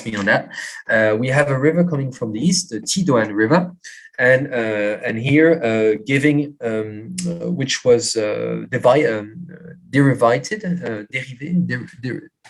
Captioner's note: non-english